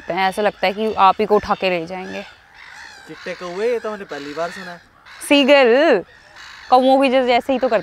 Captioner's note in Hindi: चिल्लाते हुए